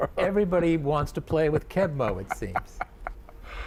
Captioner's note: laughs